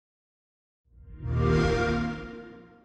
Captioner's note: xbox sound